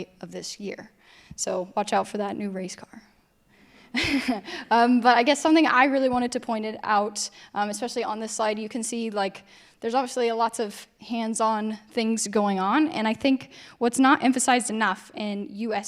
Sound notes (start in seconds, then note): 4.0 chuckles